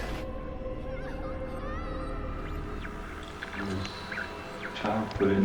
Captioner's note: children laughing